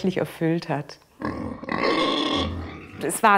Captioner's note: grunt